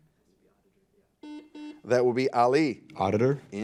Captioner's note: buzzer